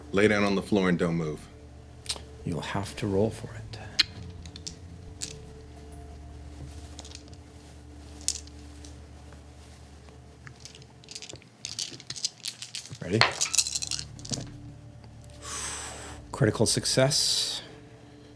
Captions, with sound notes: Lay down on the floor and don't move. You'll have to roll for it. (dice rattling) Ready? (sucking in air) Critical success.